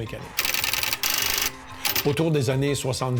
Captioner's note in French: bruit mécanique